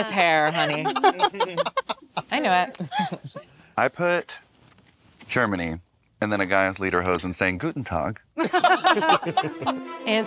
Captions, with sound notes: Look at this hair, honey. I knew it. - I put Germany and then a guy with lederhosen saying, "Guten tag." (group laughs) (dramatic music)